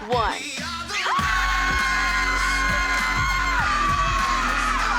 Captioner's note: ladies scream